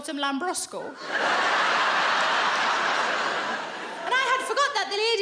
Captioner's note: audience laughs